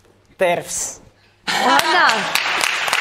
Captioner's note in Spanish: Aplausos